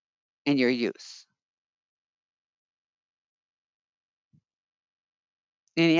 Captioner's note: 5 seconds pause